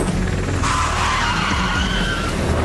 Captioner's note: Скърцане на спирачки